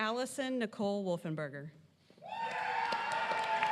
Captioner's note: applause